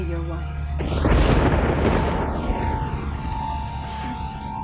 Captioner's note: thunder crashing